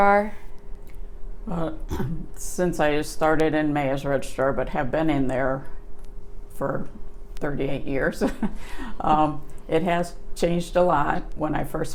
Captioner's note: clears throat